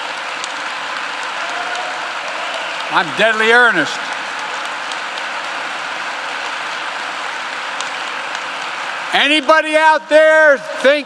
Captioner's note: applause